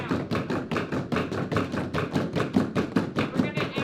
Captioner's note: floorboard banging